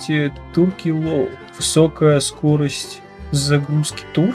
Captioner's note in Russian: читает на английском